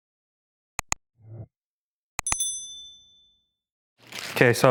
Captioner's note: button clicking, bell sound